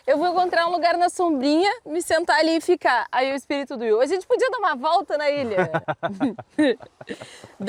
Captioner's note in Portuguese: risadas